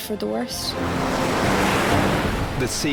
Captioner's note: waves whooshing